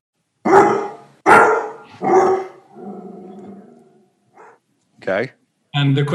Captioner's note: dog barking